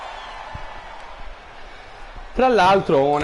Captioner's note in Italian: Applauso